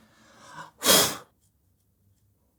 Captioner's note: blows air